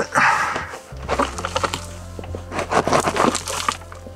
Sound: shuffles

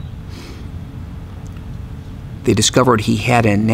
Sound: breathes in deeply

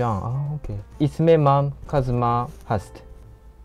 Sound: Farsi

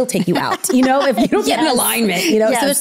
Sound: laughing

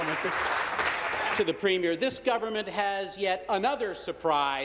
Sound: applause

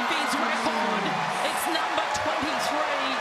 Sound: cheering and applause

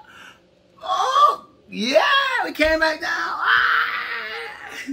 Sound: screams

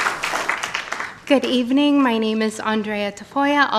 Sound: applause

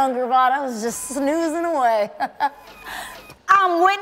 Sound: laughs

